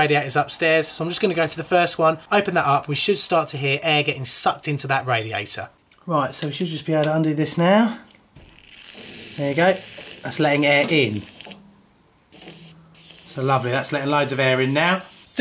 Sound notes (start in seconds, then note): 8.6 air being sucked in; 12.3 air stops hissing when finger on vent, starts when lifted